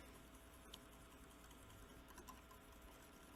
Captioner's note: whisking